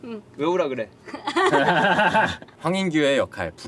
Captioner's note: laughter